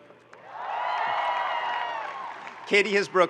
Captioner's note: audience cheering and applauding